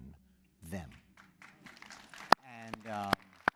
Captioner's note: applause